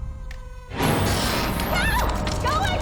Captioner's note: animatronic sounds